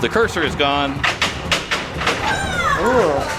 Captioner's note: clapping